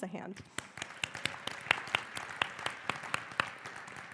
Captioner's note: applause